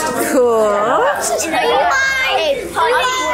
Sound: group chuckles and chatters

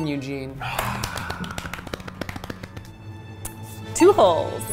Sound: sighs; clap

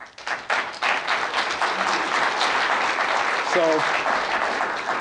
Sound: applause

